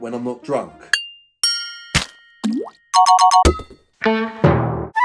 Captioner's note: playful animated boinks